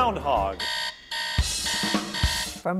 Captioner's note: alarm blaring